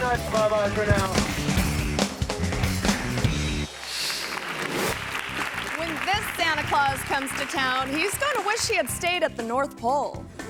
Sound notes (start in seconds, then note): 0.0 gentle upbeat music; 2.7 hands clapping